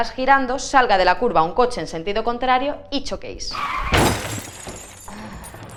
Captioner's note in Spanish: sonido de accidente